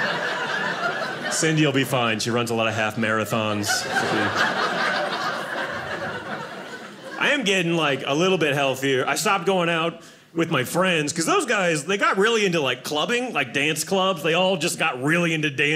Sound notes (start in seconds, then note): 2.9 audience laughing